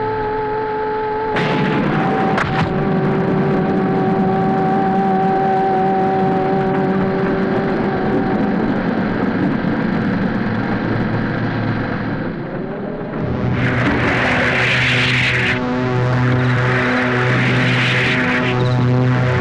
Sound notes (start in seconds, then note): 1.3 thunder crashes; 12.8 ominous music; 15.9 wind whooshing